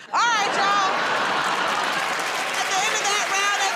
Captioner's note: cheers and applause